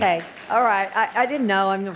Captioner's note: audience applauds